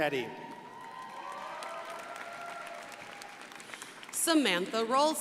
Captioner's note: crowd applauding